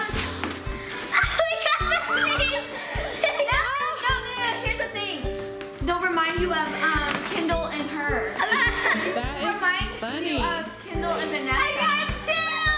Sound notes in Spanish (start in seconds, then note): 8.4 ríe